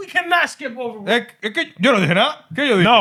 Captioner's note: speaking Spanish